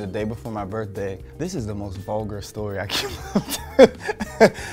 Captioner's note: laughs